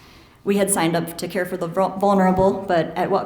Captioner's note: none